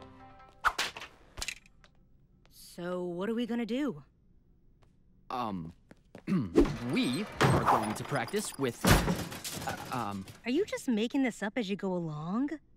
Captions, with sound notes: So what are we gonna do? Um… [clears throat] -We are going to practice with, um… -[weapons clatter] Are you making this up as you go along?